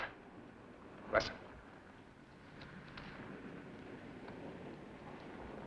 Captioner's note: car approaching